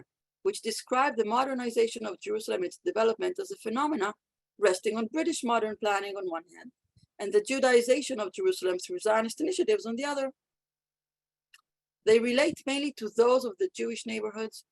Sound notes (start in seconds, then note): 9.2 Hebrew